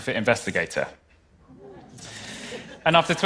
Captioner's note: laughter